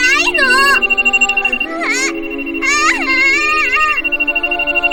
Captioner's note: screams